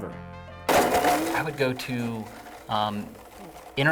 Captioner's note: blender crunches